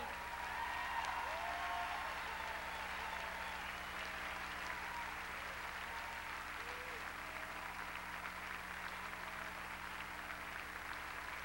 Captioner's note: crowd cheering